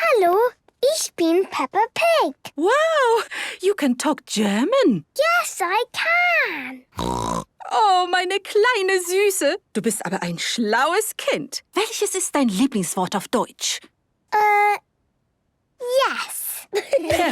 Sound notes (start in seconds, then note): 6.9 snorting; 7.7 speaking German; 16.7 laughter